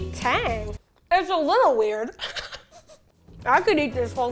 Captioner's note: laughing